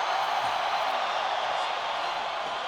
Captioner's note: crowd cheering